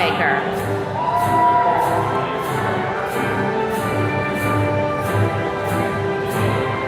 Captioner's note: attendees cheering